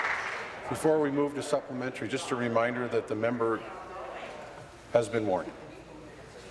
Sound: applause

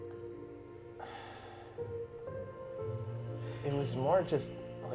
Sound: sighing

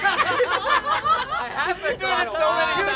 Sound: all laugh

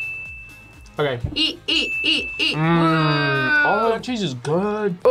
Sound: ding; chants

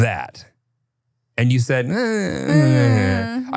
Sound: groans

